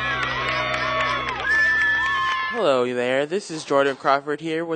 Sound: cheers

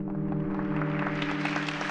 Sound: clapping

